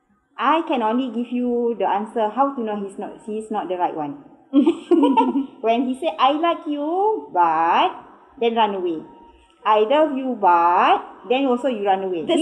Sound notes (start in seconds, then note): 4.5 both Laughing